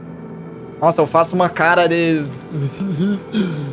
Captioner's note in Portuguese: Eughh